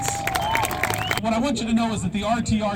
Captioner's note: clapping